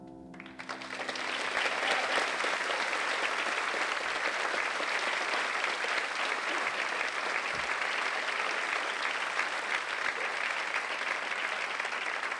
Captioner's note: applause